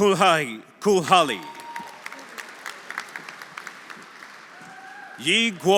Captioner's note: audience applauding; audience cheering